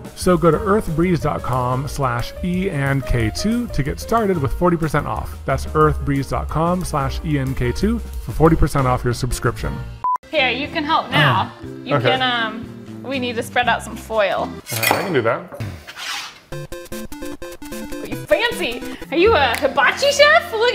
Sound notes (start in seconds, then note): 14.7 glass clanking; 16.5 video game music